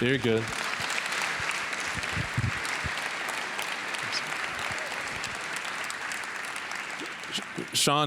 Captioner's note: applause